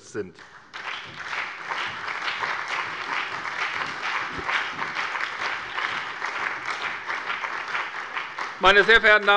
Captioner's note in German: Allgemeiner Beifall